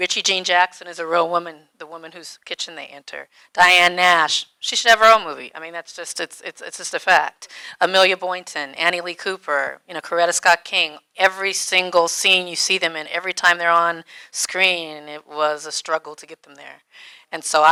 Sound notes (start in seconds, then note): none